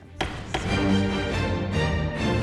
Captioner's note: dramatic music; gavel knocking